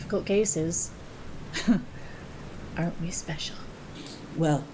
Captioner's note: laughs